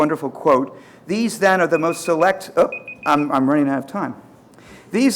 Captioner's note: alarm beeping